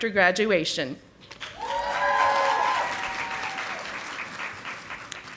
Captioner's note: audience applauding